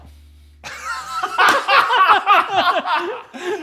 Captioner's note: both laugh uproariously